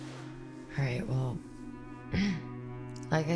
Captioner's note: clears throat